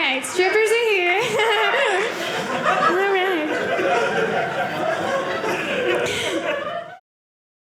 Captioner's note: audience laughing